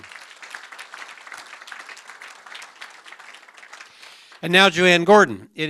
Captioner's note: applause